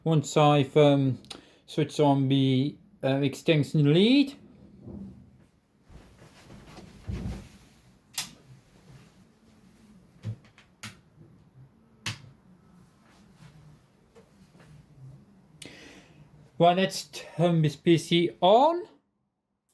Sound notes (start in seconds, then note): 8.2 plug socket switch sound; 10.7 extension lead socket switch sound